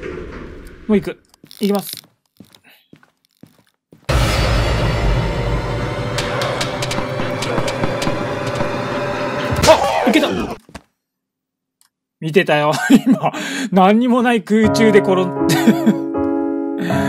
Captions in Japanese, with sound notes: もうイク イキます （効果音） あっ！イケた 見てたよ 今、何にも無い空中で転ん…